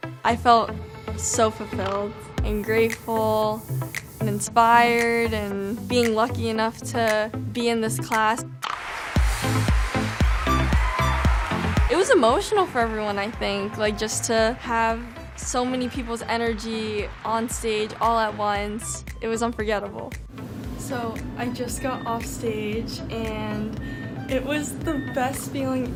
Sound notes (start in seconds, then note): 8.6 applause; 8.6 upbeat music